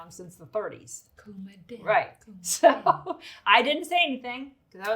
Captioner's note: laughs